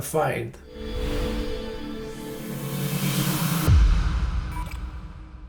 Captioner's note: electronic swoosh